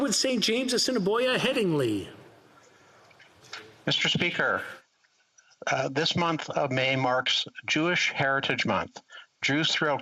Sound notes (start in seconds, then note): 1.3 some Applause